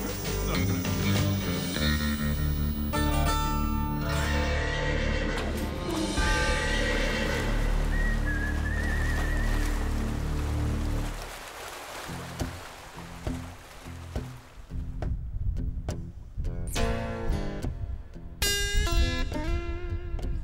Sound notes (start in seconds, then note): 8.9 water lapping